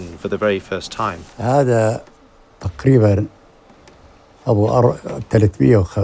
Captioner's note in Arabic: يتحدث لغة أجنبية